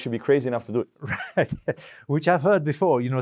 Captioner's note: laugh